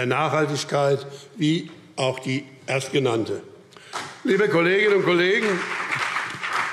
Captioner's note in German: Beifall BÜNDNIS 90/DIE GRÜNEN und CDU